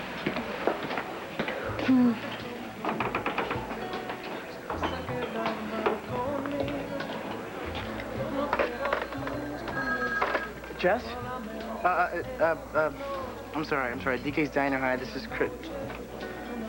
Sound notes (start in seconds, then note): 11.3 telephone rings